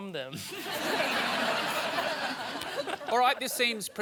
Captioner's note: laughter